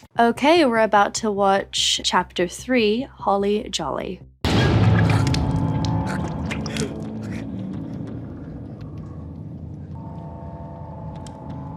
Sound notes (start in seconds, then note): 4.5 dramatic sting; 6.0 Barb gurgles